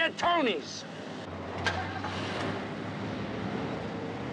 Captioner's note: engine starts